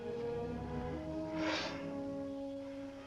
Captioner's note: sigh